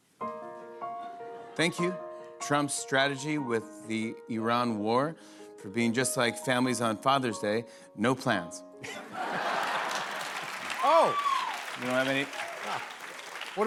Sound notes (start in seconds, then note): 8.8 laughter